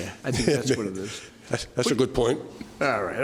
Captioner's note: laughs